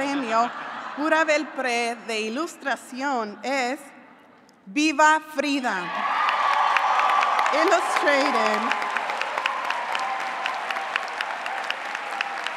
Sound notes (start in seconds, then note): 6.0 applause